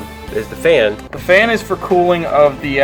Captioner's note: voiceover